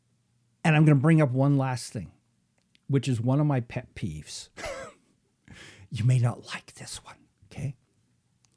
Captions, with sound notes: And I'm gonna bring up one last thing, which is one of my pet peeves (laughs). You may not like this one, okay.